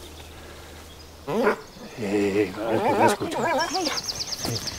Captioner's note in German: Knurren